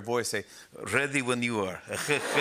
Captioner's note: Russian accent; laughs